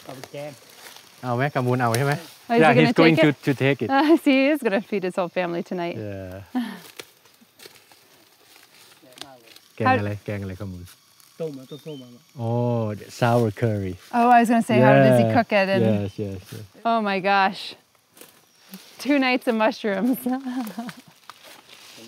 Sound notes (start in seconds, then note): 0.3 speaking foreign language; 9.9 speaking foreign language; 20.2 laughs